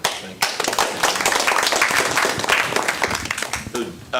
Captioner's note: applause